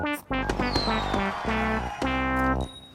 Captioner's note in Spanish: Aplausos, vítores